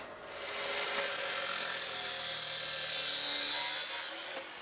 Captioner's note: saw cutting